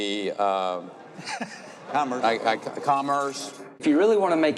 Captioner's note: audience laughing